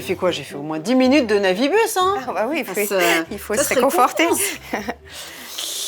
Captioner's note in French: rires